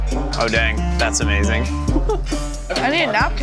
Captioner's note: laughing